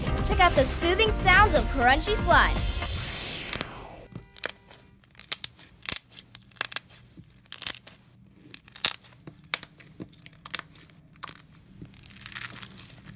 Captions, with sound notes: Check out the soothing sounds of crunchy slime! [crunching]